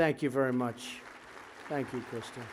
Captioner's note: applause